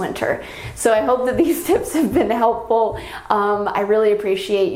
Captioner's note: giggling